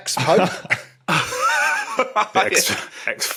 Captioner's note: chuckles; guffaws